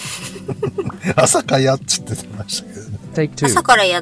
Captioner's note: laughs